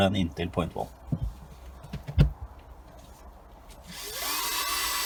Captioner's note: sound of the drill starting